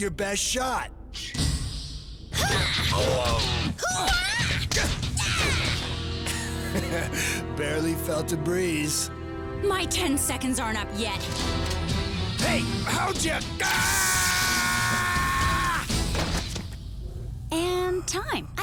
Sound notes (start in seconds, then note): 2.4 fighting grunts; 6.2 snickers; 13.6 screams